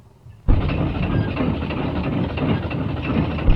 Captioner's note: winch rattling